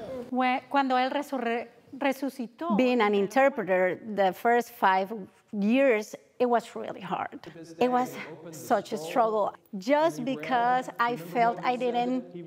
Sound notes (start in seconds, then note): 3.2 speaking Spanish